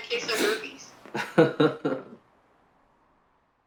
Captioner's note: laughs